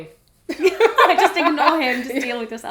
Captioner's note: laughter